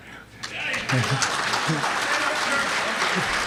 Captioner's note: applause